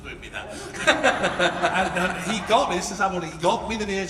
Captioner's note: laughs